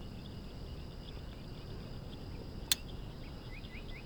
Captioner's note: gun clicking